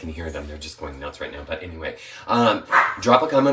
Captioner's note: dog barking